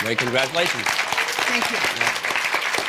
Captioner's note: applause